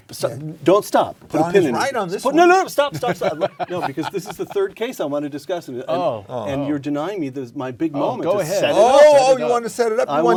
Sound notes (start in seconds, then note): 2.7 laugh